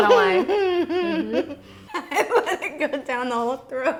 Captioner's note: giggling